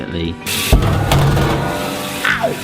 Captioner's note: sink water spraying; clattering